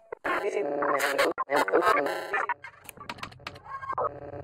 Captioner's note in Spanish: voz distorsionada